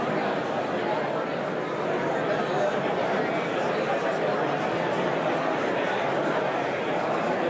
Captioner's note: audience continues indistinctly chattering